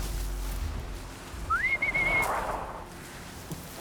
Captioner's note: whistles